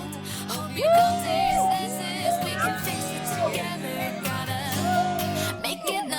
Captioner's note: protestors cheer